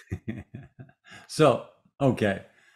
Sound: laughs

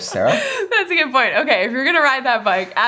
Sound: laughs

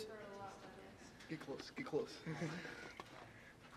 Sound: in a low tone

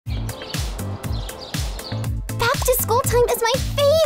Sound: birds chirping; upbeat music

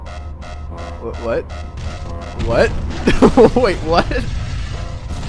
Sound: giggling

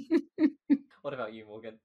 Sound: laughs

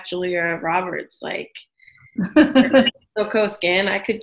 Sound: interviewer laughs

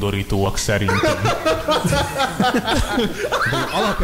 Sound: hard laughs

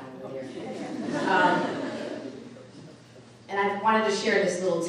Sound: audience laughing

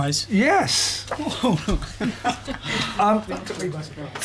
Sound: laughter

